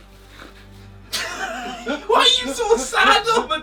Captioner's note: laughs